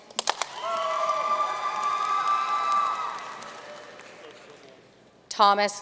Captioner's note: audience cheering and applauding